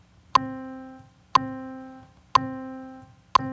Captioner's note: metronome